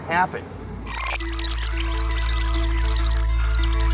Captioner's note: tones squeal